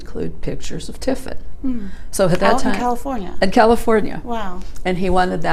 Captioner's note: murmurs, ‘mmm’